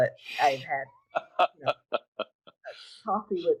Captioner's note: laughing